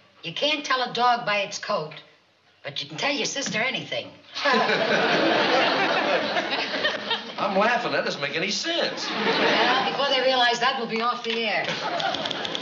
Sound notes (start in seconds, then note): 4.4 laughs